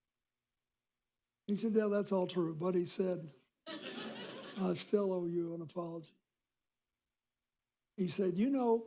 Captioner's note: laughter